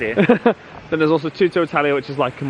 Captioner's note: laughing